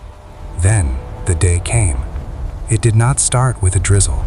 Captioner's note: soft, mysterious tone